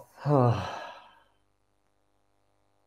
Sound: exhales

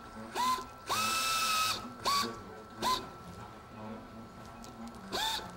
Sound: drilling

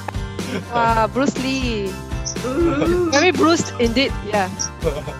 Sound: laughter

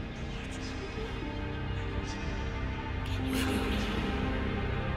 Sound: ghostly whispering

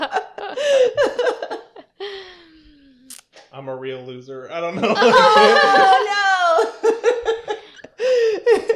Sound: laughter

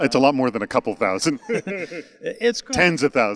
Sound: they laugh

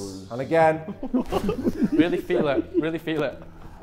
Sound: Sidemen laughing

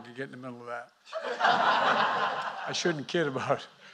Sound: laughter

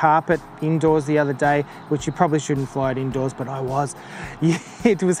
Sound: laughs

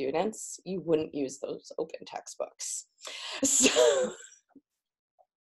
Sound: laughs

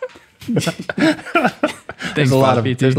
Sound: laughing

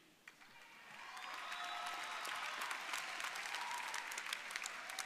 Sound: audience applauding

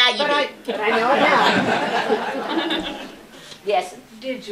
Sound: laughter

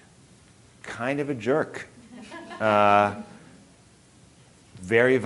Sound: audience laughing

